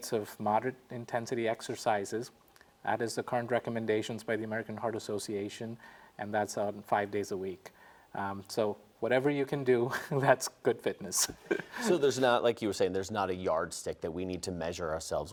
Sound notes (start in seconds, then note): 11.2 chuckles